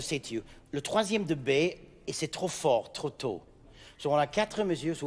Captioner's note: speaking in French